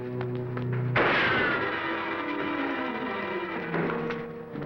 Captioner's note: gun firing